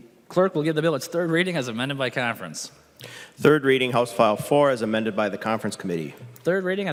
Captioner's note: gavel